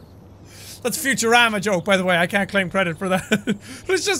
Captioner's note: chuckles